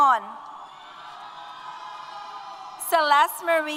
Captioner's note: applause & Cheers